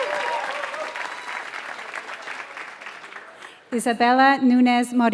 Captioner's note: applause